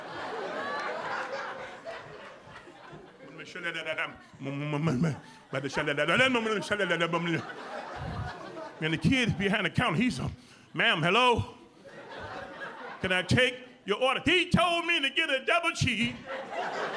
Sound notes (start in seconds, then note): 3.5 speaking gibberish